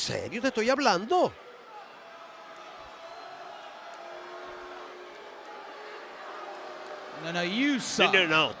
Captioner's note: applause